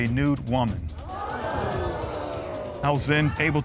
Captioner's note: audience gasping